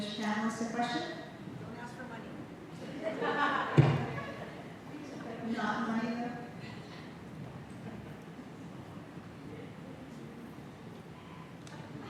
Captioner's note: laughter